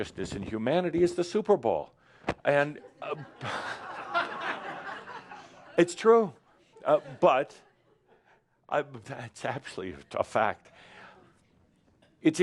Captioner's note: laughter